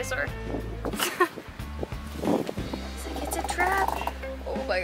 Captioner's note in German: Gelächter